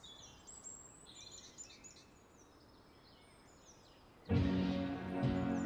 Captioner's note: birds chirping